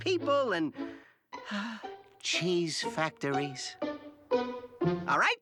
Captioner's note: sighs